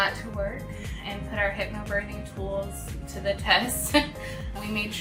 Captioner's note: laughs